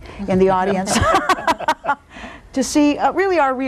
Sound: all laugh

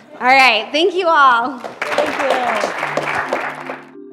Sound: applause

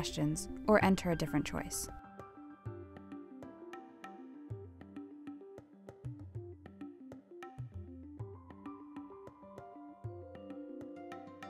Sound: silence

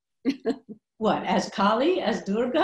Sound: Gloria laughing

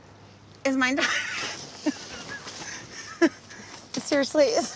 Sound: laughing

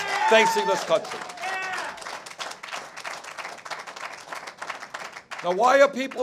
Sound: cheers and applause

